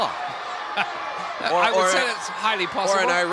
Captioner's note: laugh